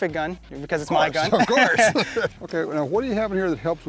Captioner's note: laughing